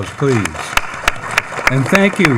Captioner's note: attendees clapping